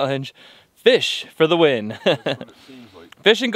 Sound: laughs

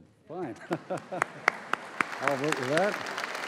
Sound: applause

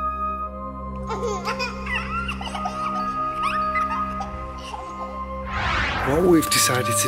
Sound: spooky music; a baby laughs

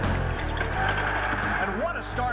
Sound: imposing rock music; cheering

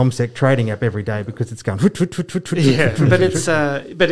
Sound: imitates sound

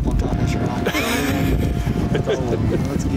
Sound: laughing

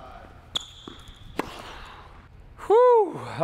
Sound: racket hitting the ball

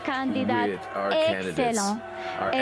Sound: speaking French

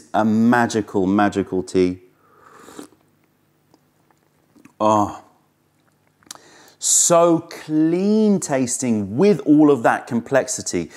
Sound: sips tea

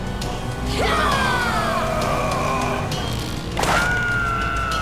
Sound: dramatic music; all yelling

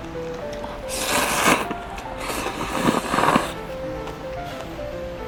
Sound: slurping noodles X 6

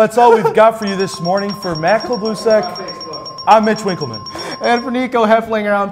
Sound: ding ding ding

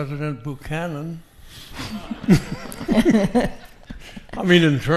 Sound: audience laughing

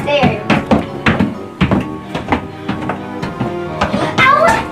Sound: feet thumping

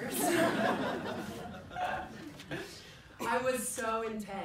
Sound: people laugh

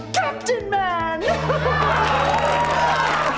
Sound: laughing; cheering

